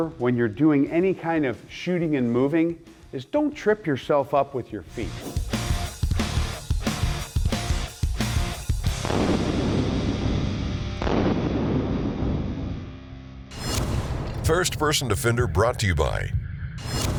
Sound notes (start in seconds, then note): 6.6 rock music; 9.9 gunshot